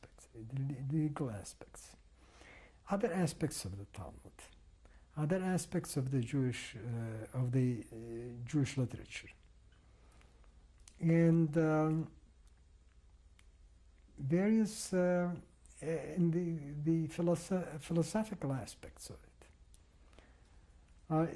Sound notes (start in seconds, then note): 11.2 pauses for 3 seconds